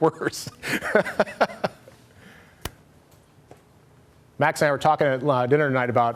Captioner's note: laughter